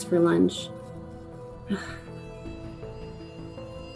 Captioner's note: sigh